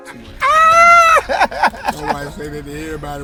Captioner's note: man laughing